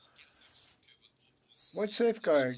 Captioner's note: speaking French